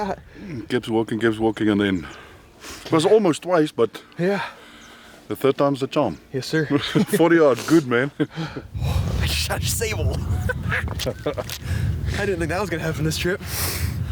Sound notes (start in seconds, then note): 6.8 chuckling; 10.0 laughing